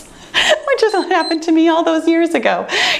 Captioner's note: timer beeps